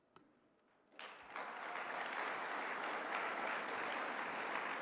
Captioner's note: applause